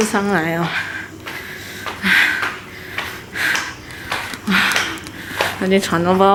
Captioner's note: panting heavily